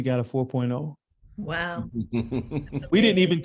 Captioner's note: laughing